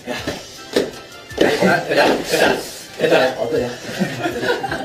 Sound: Impersonating Rap Monster

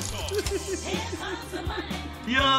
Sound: chuckles

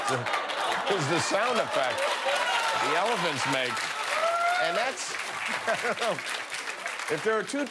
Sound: laughter

